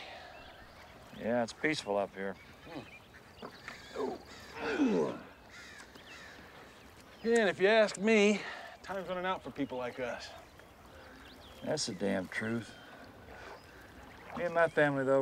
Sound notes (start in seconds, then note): 4.5 both grunting